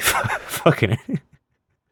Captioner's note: wheezes